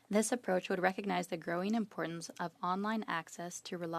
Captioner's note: speaking French